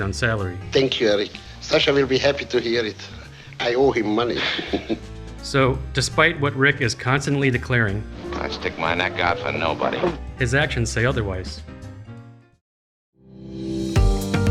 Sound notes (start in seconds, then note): 4.2 laughs